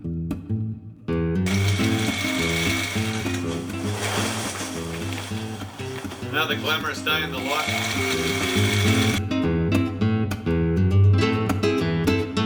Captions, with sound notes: (sewing machine stitching) - Another glamorous day in the life. (upbeat music)